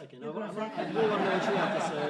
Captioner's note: laughter